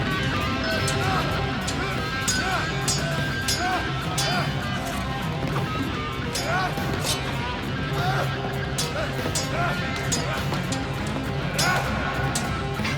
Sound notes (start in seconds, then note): 0.8 grunts; 2.2 swords clang